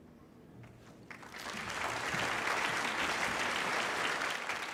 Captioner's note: crowd applauding